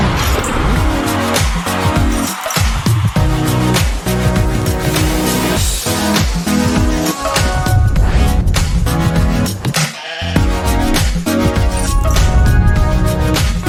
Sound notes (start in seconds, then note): 0.0 crowd cheering; 3.5 upbeat music; 10.0 sheep bleating; 10.9 upbeat music